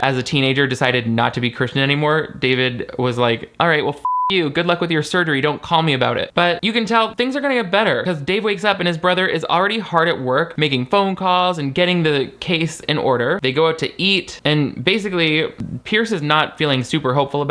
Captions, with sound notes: as a teenager decided not to be Christian anymore David was like, "All right, well, (beep) you. "Good luck with your surgery, don't call me about it." But you can tell things are gonna get better, 'cause Dave wakes up and his brother is already hard at work making phone calls and getting the case in order. They go out to eat, and basically Pearce is not feeling super hopeful